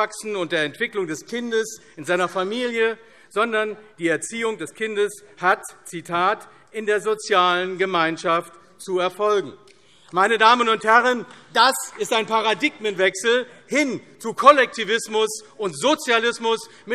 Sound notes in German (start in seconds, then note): 10.0 Beifall AfD